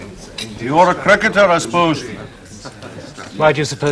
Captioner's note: Scottish accent